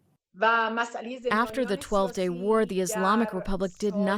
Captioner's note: through translator